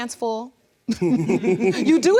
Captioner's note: laughing